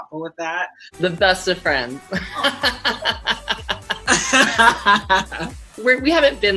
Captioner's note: both laughing